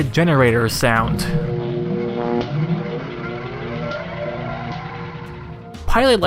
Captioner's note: generator with sparking sound added to it